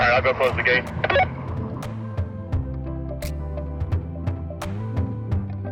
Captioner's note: walkie talkie blip